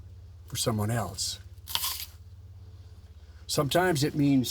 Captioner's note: Coroner Hamlin chomps on apple